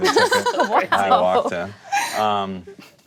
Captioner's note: laughter